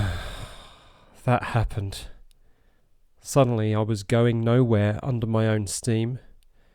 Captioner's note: sigh